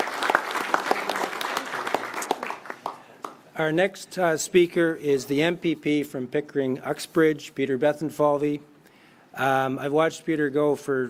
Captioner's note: applause